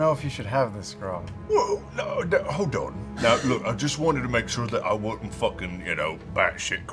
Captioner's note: confused sputtering